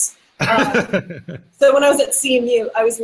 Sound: laughing

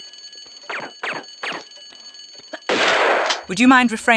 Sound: pew pew pew; bam

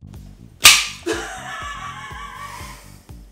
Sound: off screen laughs

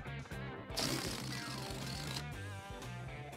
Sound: farting-noise

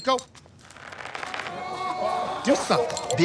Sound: pantyhose creaking

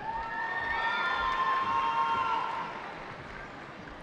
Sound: cheering

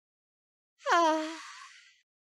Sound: Popsicle Stick sighs

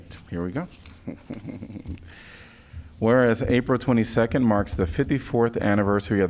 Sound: laughter

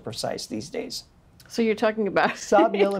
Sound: laughs

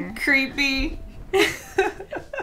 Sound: both laugh

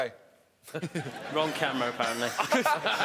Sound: laughing

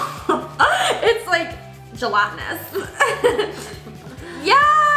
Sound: laughs; laughs

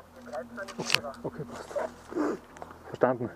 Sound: radio

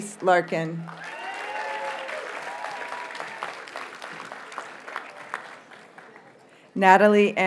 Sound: audience cheers and applauds

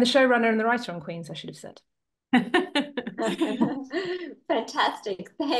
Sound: everybody laughing

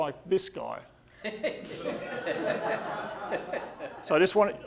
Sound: audience laughing

